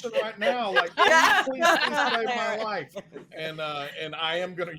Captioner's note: all laughing